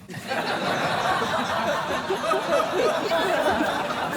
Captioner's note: laughter